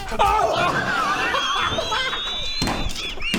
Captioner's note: laughs at comedic perfection